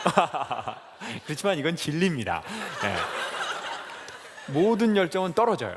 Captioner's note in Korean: 웃음